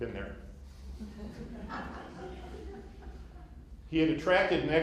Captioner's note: laughter